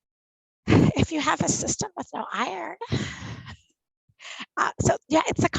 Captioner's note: laughs